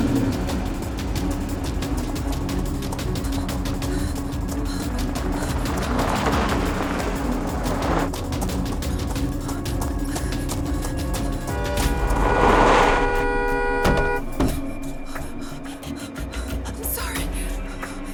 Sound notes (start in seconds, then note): 11.4 horn honking